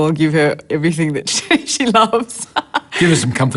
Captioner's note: laughs